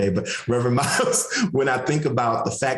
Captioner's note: laughs